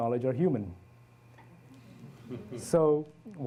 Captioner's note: audience chuckles